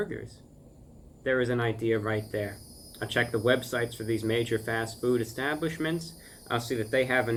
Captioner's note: cicadas begin singing